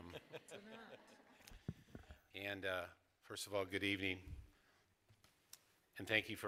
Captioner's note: laughter